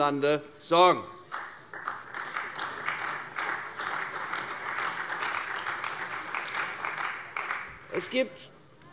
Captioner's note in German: Beifall bei der CDU und dem BÜNDNIS 90/DIE GRÜNEN